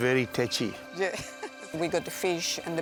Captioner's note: chuckles